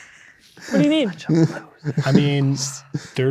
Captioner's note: players laughing; others whispering